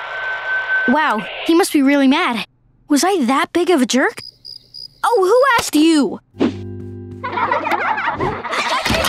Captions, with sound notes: Wow, he must be really mad. Was I that big of a jerk? [chirping] Oh, who asked you? [laughing]